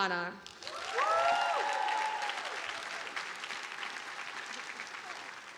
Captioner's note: audience applauding